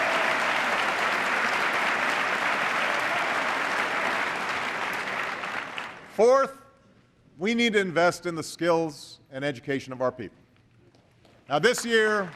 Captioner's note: applause; applause